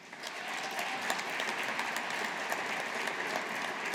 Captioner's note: audience applauding